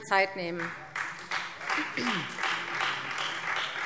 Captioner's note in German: Beifall Freie Demokraten